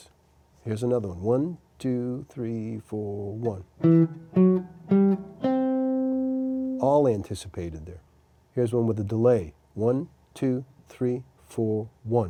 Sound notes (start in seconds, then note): 3.1 rhythmically anticipates